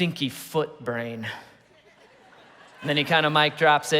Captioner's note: congregation laughing